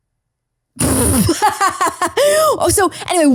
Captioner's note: laughs